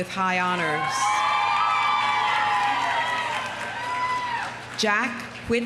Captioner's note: audience cheering; audience applauding